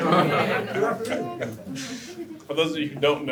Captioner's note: audience laughter